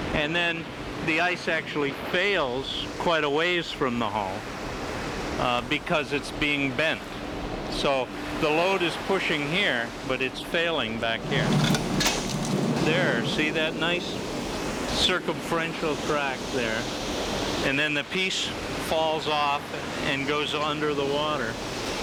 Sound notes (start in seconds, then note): 11.3 ice snapping